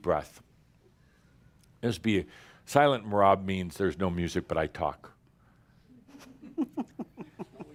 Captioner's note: giggles